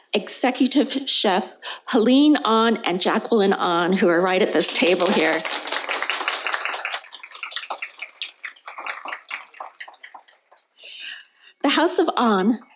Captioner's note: applause